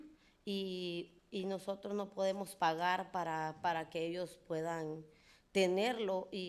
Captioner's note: speaking in foreign language